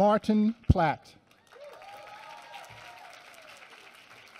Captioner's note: applause